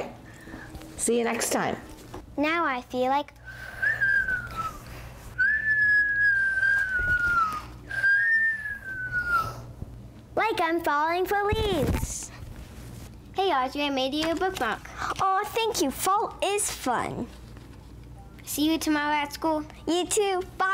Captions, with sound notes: All right. See you next time. Now. I feel like, [whistling] [whistling] [whistling] Like I'm falling for leaves. Hey RJ I made you a book mark. Oh, thank you. Fall is fun. See you tomorrow at school. You too.